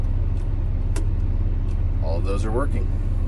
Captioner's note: clicking